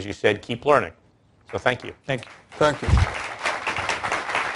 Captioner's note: applause